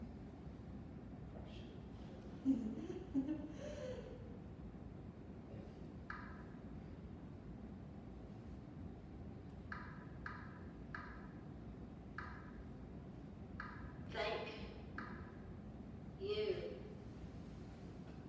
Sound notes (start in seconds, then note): 2.4 laughs